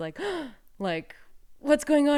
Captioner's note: gasps